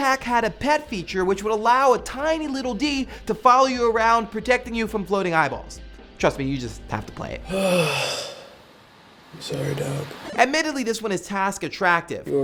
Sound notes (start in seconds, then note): 7.4 sighs